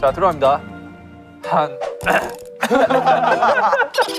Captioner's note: ahem